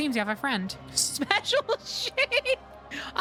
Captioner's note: laugh; laughing